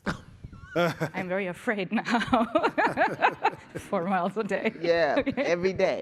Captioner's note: chuckling